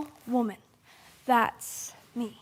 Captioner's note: soft breathing